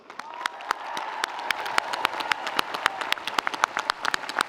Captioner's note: audience applauding